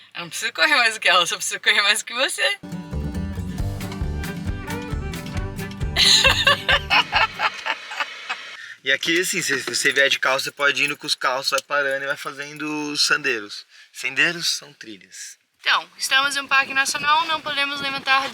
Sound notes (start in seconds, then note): 5.9 laughter